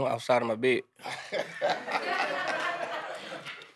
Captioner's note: group laughing